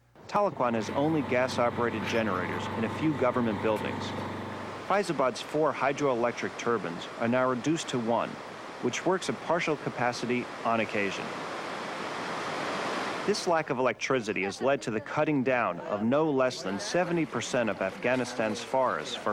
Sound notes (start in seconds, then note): 4.8 water gushing; 11.5 water gushing